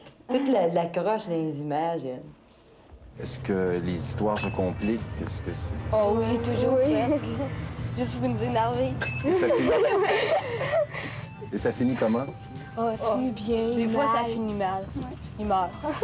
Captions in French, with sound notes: Tout l'accroche dans les images, elle. - Est-ce que les histoires se compliquent? - Ah! oui, toujours presque! Juste pour nous énerver. (rires) - Et ça finit comment? - Ah! Ça finit bien. - Des fois, ça finit mal. Ils meurent.